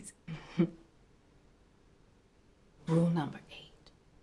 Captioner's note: chuckles